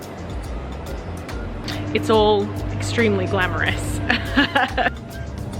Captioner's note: chuckles